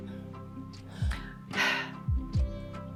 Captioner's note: sigh